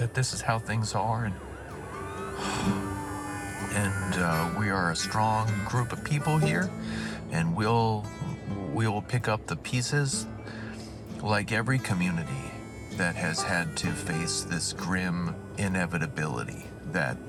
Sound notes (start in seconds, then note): 1.7 sirens wailing